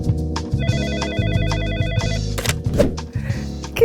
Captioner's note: phone ringing